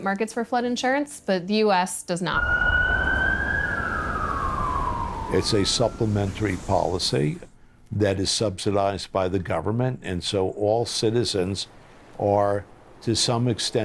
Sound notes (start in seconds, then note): 2.3 sirens blaring